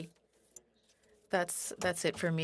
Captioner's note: speaking French